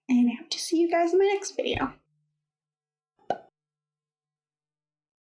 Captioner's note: pop!